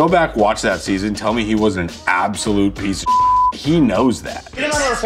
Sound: beeps

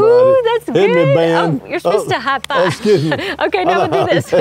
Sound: chattering

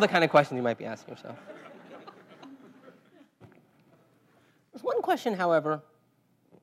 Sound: laugh

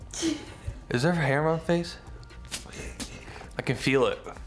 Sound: laughing

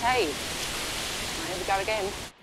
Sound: foliage rustling continues

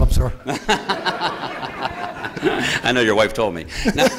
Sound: laughter

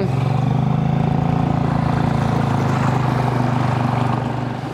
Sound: motor accelerating

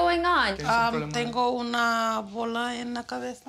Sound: speaks spanish

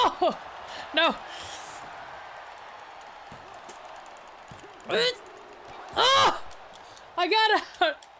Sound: applause

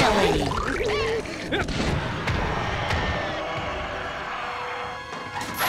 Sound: roaring

